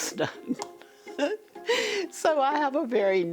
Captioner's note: laughs